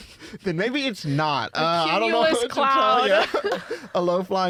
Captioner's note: laughing